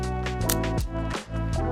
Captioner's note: camera shutter